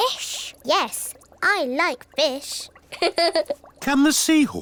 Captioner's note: laughs